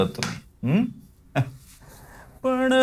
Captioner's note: laughs